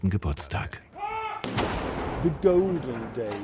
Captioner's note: cannons booming